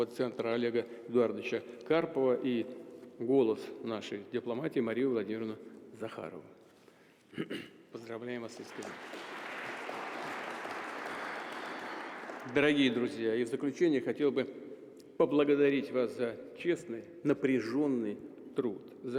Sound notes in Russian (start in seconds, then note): 8.5 Аплодисменты